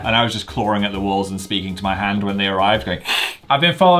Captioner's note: hisses